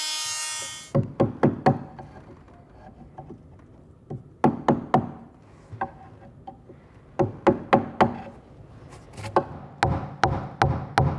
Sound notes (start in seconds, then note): 0.0 short, careful hammer blows